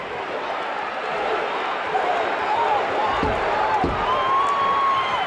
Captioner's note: audience cheering